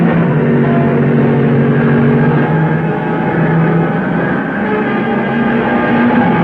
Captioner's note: cars revving; dramatic music